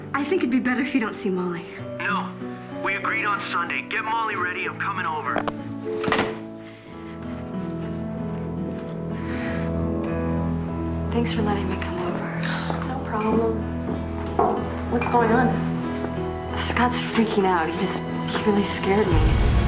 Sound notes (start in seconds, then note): 9.1 sighing